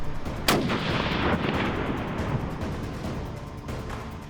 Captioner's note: gunshot fires